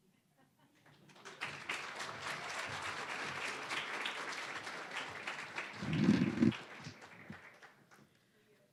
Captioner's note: applause